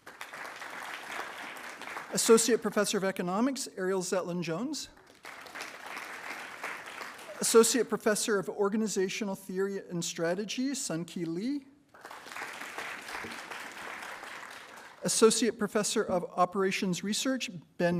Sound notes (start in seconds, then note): 0.0 attendees applauding; 4.9 attendees applauding; 11.9 attendees applauding